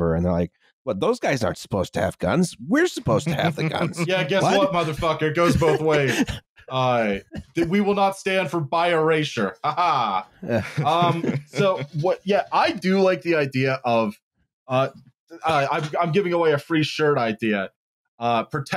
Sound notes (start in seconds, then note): 3.0 chuckles; 3.1 laughs; 10.5 laughter